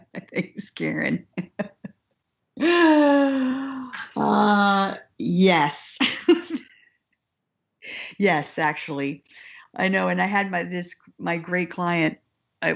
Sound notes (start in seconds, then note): 6.0 laughs